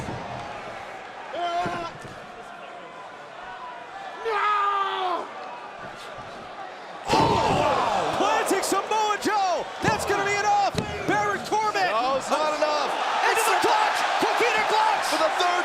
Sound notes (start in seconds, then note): 13.0 crowd cheering